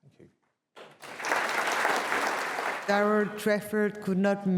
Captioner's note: applause